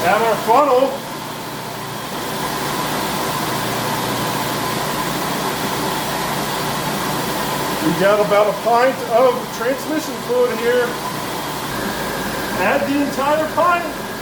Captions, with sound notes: Add our funnel. [engine idling] We've got about a pint of the transmission fluid here. Add the entire pint.